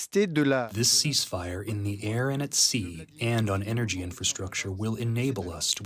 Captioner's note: through translator